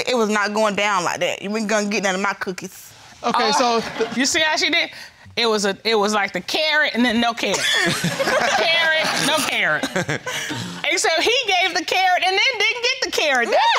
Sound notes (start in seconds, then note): 10.0 all laughing